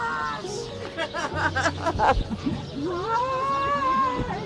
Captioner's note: laughing